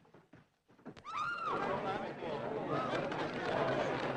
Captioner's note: Mary screams